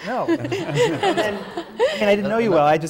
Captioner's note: laughter